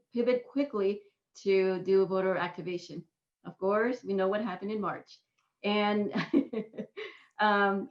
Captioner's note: laughter